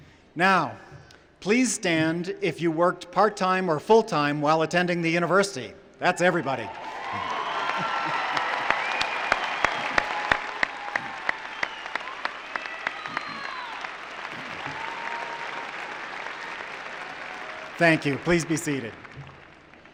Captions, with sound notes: Now, please stand if you worked part time or full time while attending the university. That's everybody. [cheering and applause] Thank you. Please be seated.